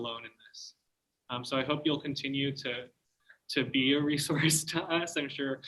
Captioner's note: laughter